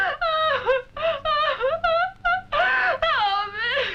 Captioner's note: crying